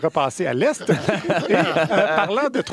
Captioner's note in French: rires